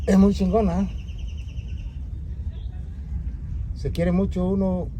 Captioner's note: birds chirping